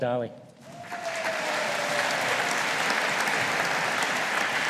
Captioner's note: audience applauding